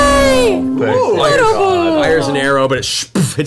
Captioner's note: loud computer noise in the background